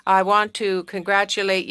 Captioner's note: speaking French